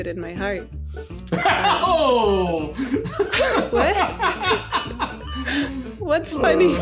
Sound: laughing

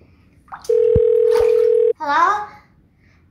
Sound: telephone ringing

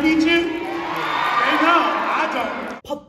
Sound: loud cheers

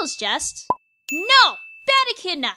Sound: pop

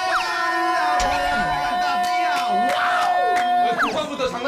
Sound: shouting out of joy

